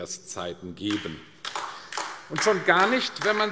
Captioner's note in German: Beifall AfD